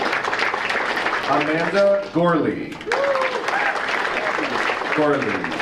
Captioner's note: audience applauding